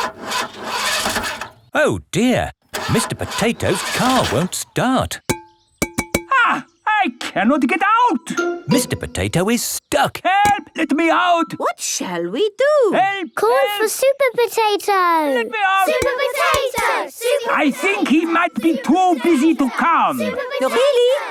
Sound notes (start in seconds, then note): 0.2 engine sputtering; 6.2 knocking on window